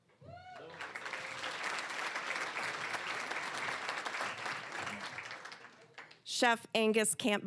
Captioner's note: cheering, applause